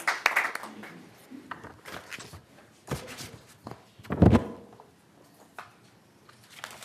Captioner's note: applause